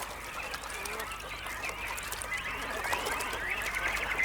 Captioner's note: birds singing